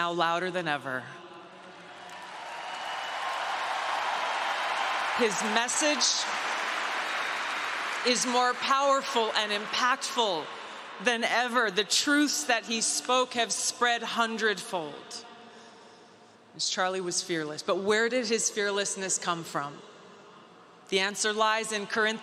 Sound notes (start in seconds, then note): 7.8 cheering; 8.5 applause; 8.5 cheering; 9.6 applause